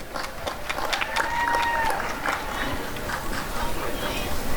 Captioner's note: applause and cheering